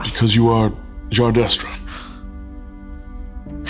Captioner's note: Sophrosyne gasps